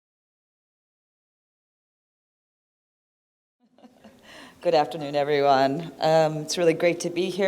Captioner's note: laughter